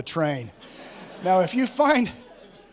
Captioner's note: laughter